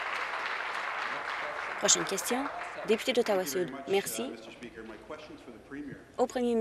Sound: applause

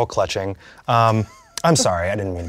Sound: Susan laughs

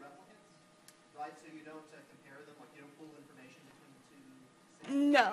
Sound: speaks off-mic

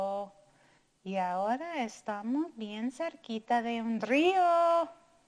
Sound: speaking in foreign language

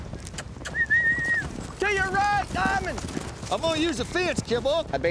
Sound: whistling

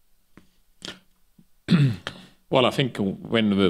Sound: clears throat

